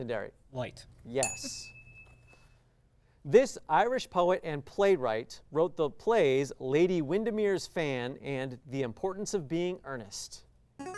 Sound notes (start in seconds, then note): 1.2 ding